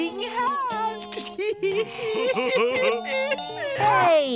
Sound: laughing

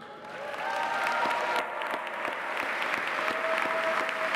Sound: audience applauding

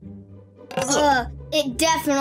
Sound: disgusted groans

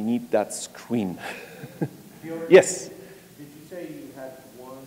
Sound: laugh

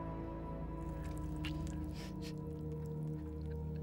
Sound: blood sloshing

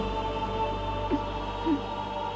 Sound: sobbing

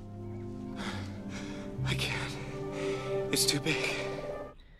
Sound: breathing heavily

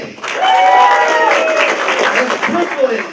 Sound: applause

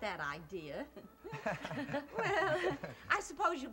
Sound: laughter

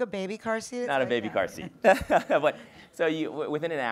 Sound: laughs

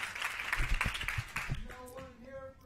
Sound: applause

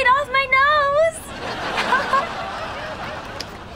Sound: laughing

